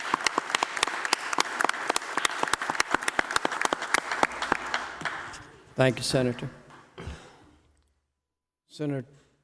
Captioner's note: applause